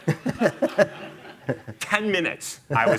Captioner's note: chuckling